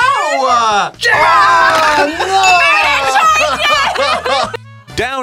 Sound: laughs

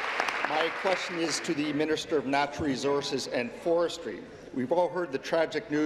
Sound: applause

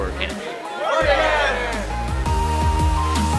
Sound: cheering

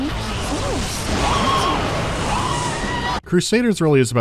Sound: screm

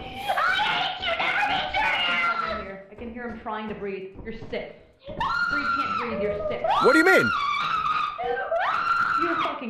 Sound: screams

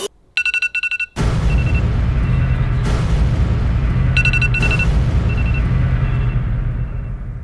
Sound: alarm sound

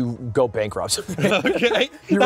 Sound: laughs

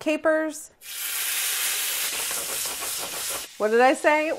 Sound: sizzling

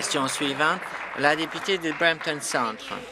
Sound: applause

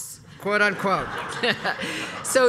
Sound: laugh

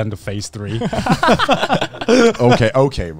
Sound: laughing

